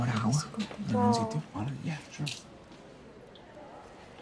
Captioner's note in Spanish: Hablan en voz baja